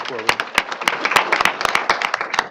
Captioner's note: applause